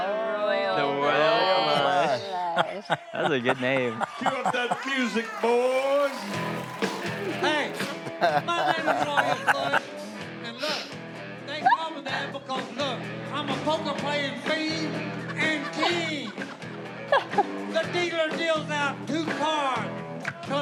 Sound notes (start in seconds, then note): 6.3 country rock music; 15.1 family laughs